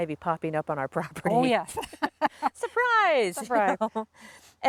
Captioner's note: laughs